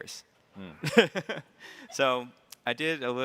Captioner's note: chuckles